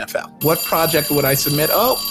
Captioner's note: bell rings